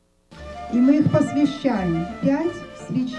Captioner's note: speaking foreign language